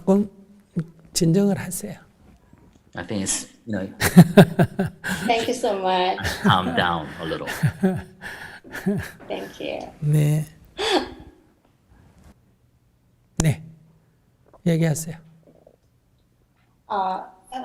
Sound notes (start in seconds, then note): 7.1 questioner laughter; 8.5 laughter